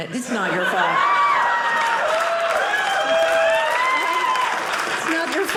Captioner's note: audience laughing